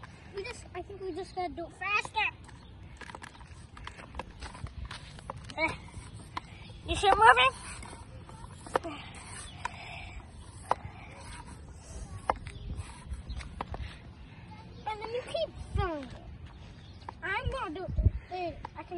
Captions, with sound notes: We just, i think we just gotta do it faster! [clunking] eh you see it moving eh and then you keep Im going to do it